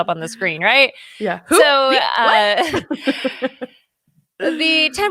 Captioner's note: laughs